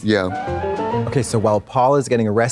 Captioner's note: bright chime